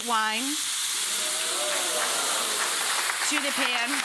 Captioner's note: wine sizzling; audience cheers and applauds